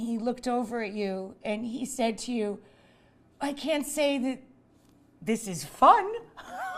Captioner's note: laughs